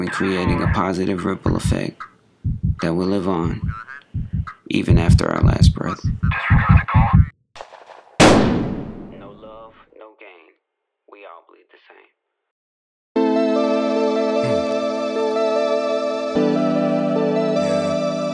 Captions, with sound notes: a positive ripple effect that will live on even after our last breath. (gunshot firing) No love, no gain. We all bleed the same. (electronic music)